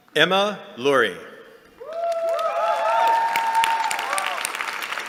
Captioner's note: cheering